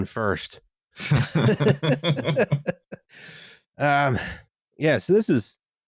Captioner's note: laughter